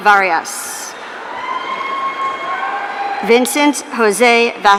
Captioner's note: audience cheering